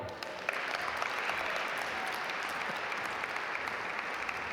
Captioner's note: audience applaud